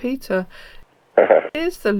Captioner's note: laugh